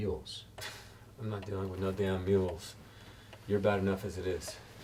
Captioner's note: scoffing